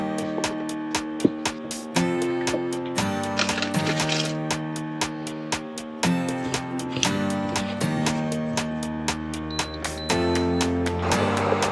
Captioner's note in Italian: Applauso